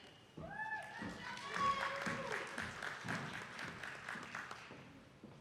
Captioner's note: attendees clapping